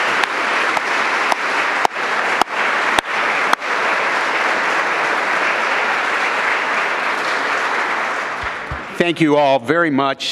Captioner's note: applause